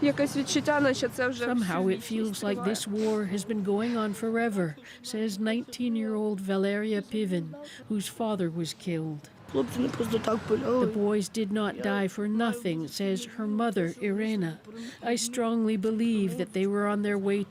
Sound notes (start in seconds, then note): 5.3 speaking Alternate Language